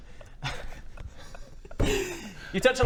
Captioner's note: giggles